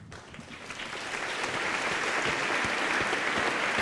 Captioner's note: applause